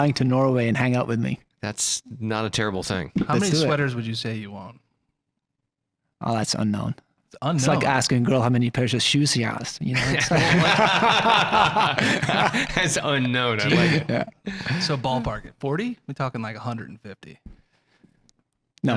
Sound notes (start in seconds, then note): 10.0 all laughing